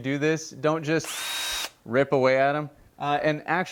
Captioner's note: drill whirling